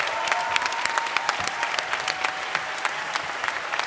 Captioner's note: cheers and applause